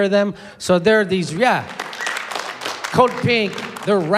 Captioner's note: applause